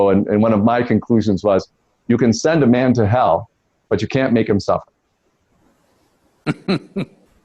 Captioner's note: Sadhguru laughs